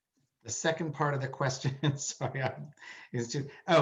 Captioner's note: laughs